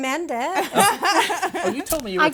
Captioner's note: laughing